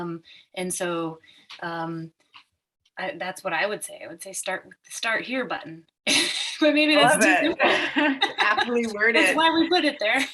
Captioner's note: laughing